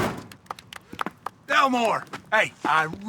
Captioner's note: people applauding